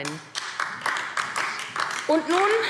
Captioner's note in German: Beifall AfD